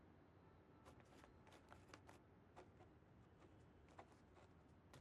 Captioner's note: pen scratching